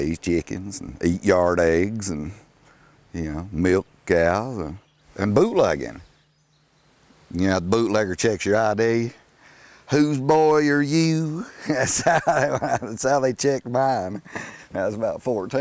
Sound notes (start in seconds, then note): 11.4 laughing